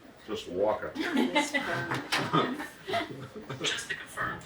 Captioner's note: laughter